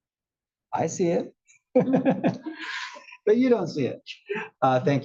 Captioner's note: laugh